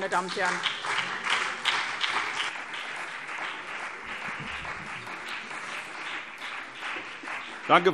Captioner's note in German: Beifall BÜNDNIS 90/DIE GRÜNEN und CDU